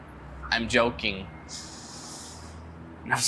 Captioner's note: anxious inhale